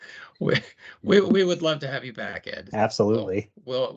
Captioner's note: chuckle